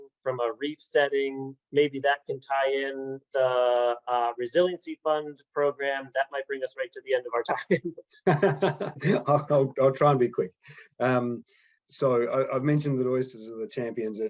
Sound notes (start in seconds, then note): 8.2 laughs